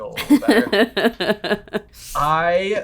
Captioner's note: laughing